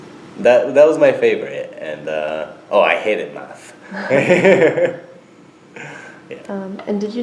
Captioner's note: both: laugh